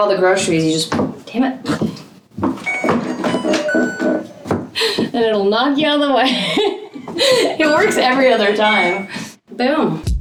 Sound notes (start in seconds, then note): 2.6 door chimming